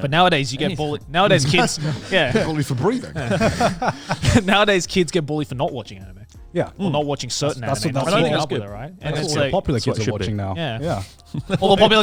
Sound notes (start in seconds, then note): 1.4 chuckles; 3.3 all laughing